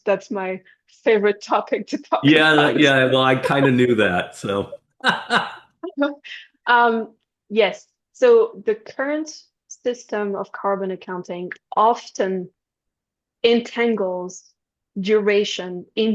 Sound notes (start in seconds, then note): 5.0 both laughing